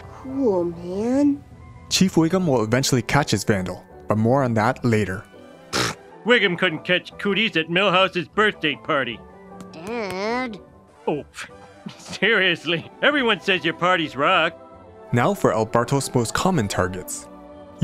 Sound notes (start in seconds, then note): 5.7 scoff